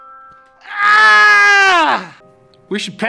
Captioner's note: screaming